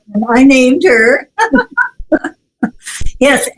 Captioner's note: laughs